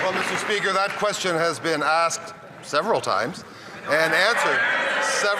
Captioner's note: some Applause